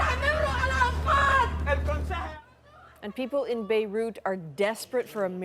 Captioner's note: yelling